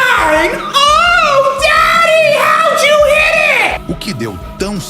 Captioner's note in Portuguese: grito